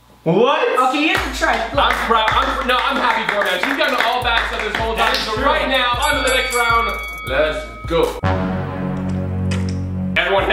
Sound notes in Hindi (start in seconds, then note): 1.1 ताली; 7.0 घंटी बज रही है; 8.8 अशुभ संगीत